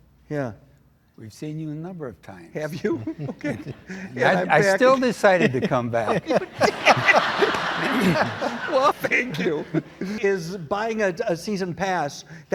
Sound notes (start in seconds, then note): 6.6 laughing